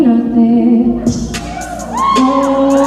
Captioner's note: cheering